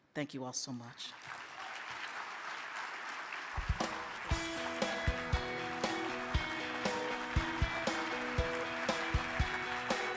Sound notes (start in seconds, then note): 1.6 audience claps; 4.2 upbeat music